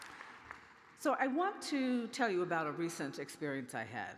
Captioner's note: applause